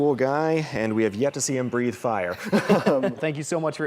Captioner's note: laughs